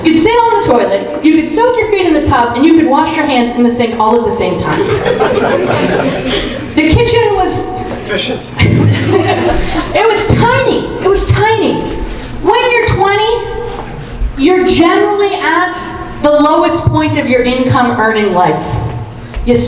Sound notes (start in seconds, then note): 4.6 audience laughing; 8.6 audience laughing; 10.5 laughs